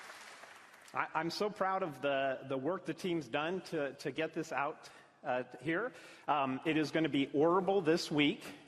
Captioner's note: applause